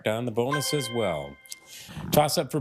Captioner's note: triumphant chime